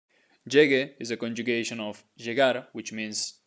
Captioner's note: speaking in Spanish